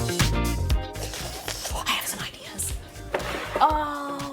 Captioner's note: slurps